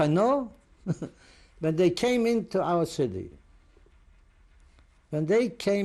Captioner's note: laughs